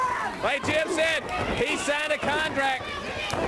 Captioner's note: crowd cheering